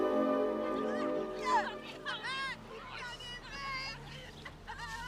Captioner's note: anak-anak berteriak